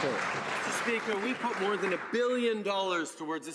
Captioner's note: some Applause